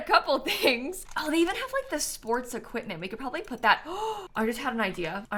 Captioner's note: gasps